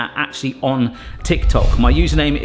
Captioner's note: graphic whooshes